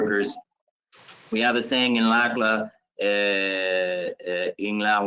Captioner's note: speaks in Spanish